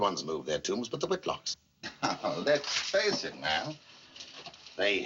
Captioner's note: chuckles